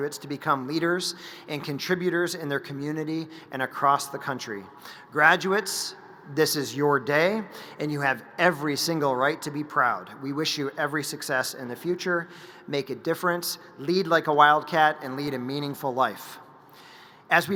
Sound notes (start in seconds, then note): none